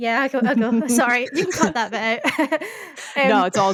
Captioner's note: laughing